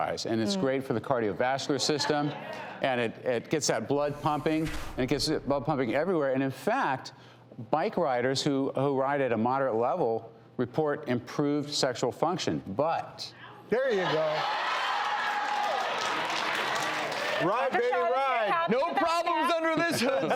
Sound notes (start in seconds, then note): 14.0 audience cheers